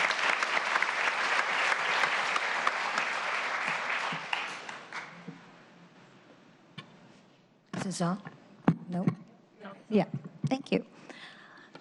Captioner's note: applause